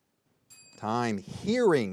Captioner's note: bell ringing